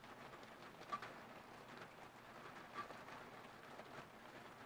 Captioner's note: rain sounds